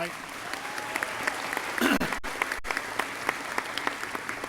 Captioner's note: crowd applauding